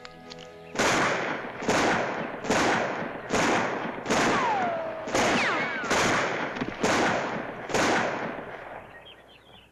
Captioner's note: soft music; gunshots